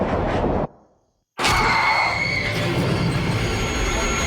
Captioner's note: screaming